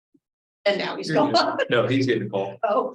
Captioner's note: laughs